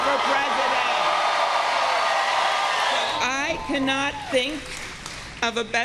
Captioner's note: cheers and applause